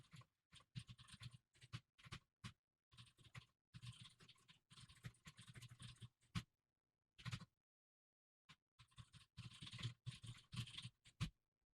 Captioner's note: typing sounds